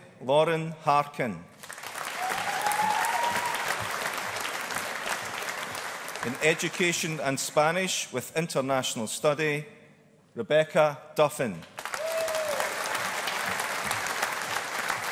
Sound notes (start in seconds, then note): 1.6 audience applauding; 11.7 audience applauding